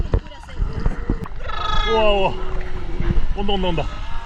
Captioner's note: seal cries